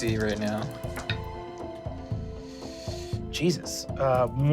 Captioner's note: dice rolling